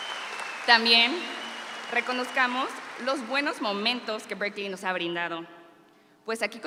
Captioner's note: continues speaking in Spanish